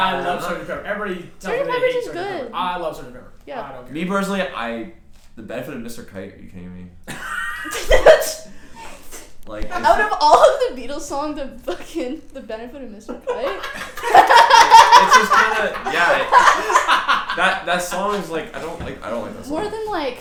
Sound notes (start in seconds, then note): 9.7 laughs